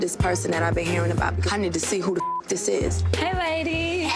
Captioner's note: beep